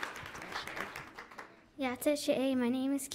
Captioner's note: audience applauds; audience cheers; speaking in foreign language